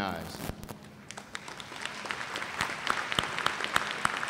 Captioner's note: applause